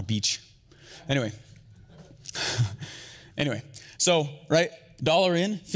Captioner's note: chuckles